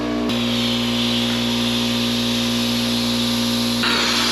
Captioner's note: air hissing